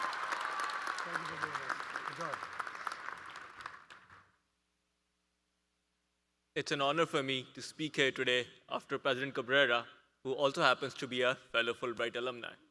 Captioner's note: applause